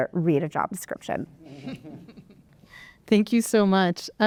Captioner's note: laughter